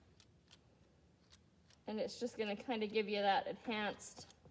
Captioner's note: none